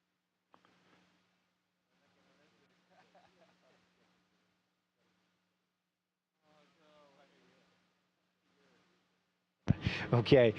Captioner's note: no audio